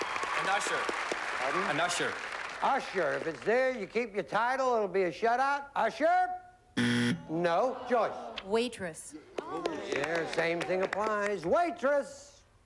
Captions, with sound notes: AN USHER. AN USHER. USHER. IF IT'S THERE, YOU KEEP YOUR TITLE. IT WILL BE A SHUTOUT. USHER! [BUZZER] NO. JOYCE. WAITRESS. SAME THING APPLIES. WAITRESS!